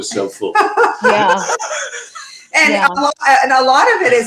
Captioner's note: everyone laughing